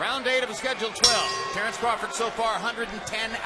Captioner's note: bell rings